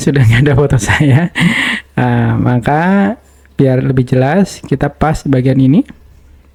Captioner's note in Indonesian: tertawa